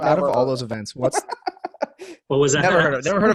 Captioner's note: laughing